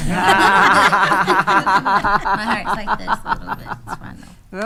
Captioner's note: attendees laughing